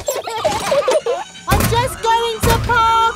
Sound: children giggling

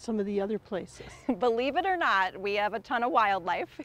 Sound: chuckles

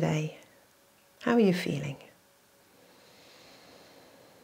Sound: inhales

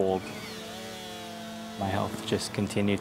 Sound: chainsaw revving

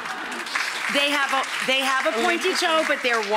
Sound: audience laughing; audience clapping

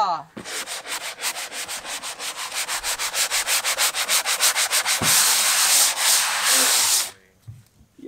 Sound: rubbing

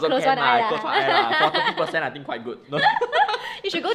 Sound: both laugh

